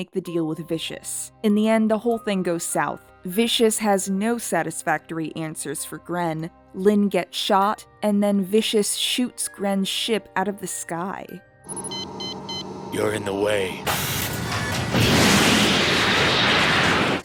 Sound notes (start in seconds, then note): 11.6 machine beeps; 13.9 wooshing sounds